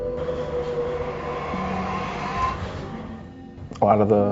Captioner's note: machine humming